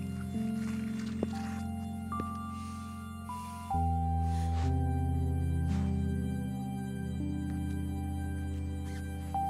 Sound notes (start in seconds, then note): 2.9 Ellie gasps; 2.9 Quinn sighs